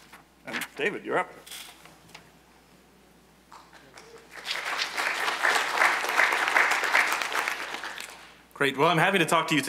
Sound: applause

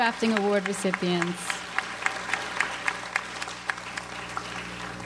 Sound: audience applauds

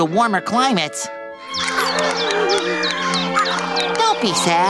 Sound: whimpering

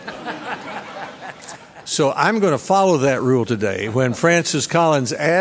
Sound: laughter

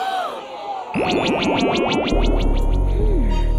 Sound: gasps

